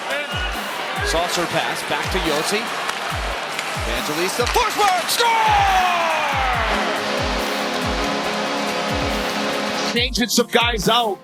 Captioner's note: goal horn